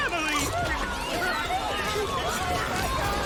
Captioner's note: robots screaming